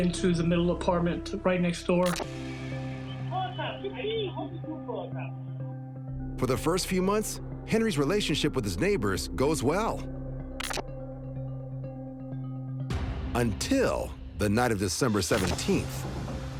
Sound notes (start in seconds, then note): 3.2 indistinct shouting; 10.8 tense music plays